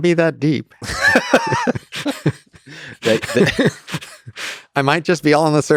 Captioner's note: Lex and Robin laugh